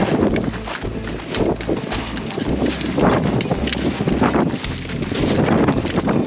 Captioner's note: wind blowing and boots clunking